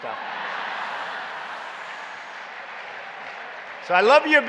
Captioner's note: laughter and applause